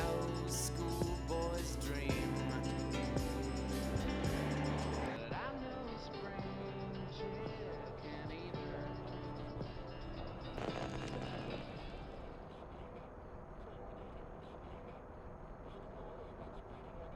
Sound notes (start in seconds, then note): 11.6 static